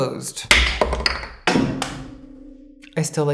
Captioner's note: gavel bangs